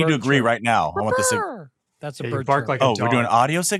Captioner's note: immitates bird